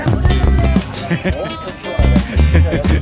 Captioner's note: giggles